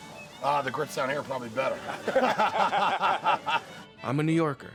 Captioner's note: laughter